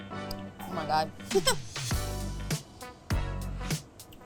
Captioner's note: laughs